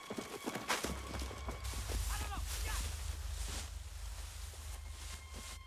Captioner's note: man Yelling In Korean